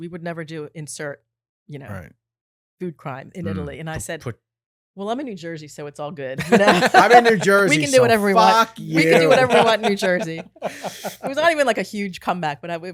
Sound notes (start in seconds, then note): 6.4 laughing